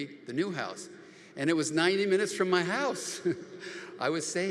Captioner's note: laughs